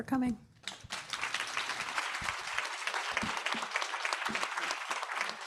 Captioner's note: audience applauding